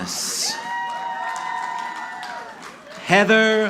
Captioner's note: audience cheering